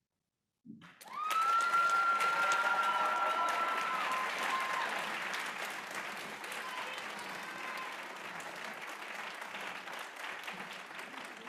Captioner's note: applause